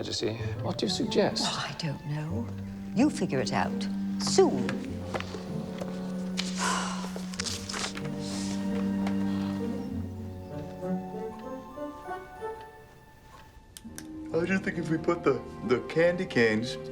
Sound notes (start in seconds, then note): 1.8 scoffs; 6.5 queen sighs